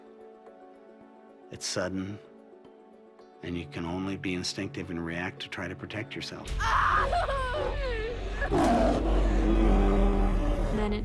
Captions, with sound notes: IT'S QUICK, IT'S SUDDEN, AND YOU CAN ONLY BE INSTINCTIVE AND REACT TO TRY TO PROTECT YOURSELF. [ SCREAMING ] [ ROARS ]